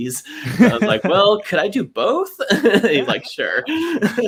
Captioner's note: laughs